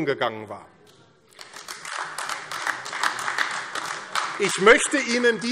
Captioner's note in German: Beifall AfD